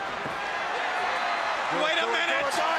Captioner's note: crowd cheering